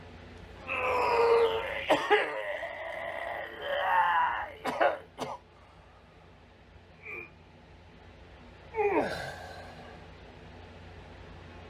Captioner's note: vomits and coughs